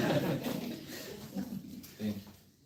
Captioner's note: laughter